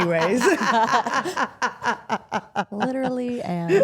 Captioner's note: Steph laughs